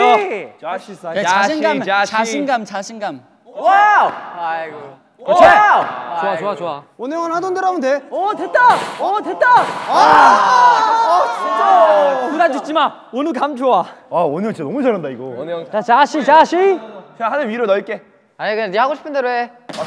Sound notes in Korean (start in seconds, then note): 9.5 절규